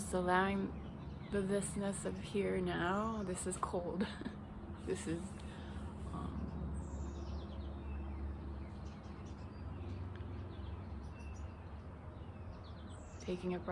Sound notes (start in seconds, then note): 7.7 laughs